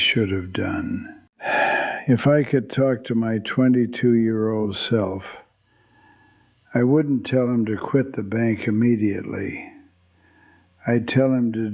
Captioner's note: sighs